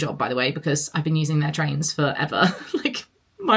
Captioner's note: laughs